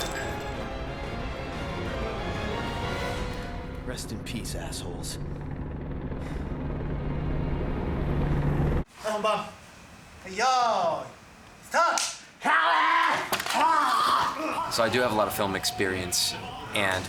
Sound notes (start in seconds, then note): 5.8 helicopter approaching; 8.8 speaking Japanese; 12.9 shouts; 13.5 snarling; 14.7 in English